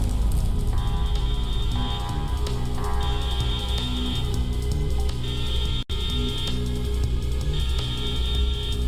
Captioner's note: alarms & Bells continue in background; deep alarm starts playing; whirr alarm starts playing; alarms & Bells